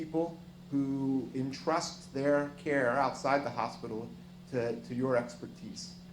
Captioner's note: none